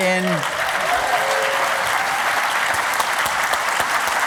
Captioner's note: applause